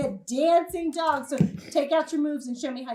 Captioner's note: snaps fingers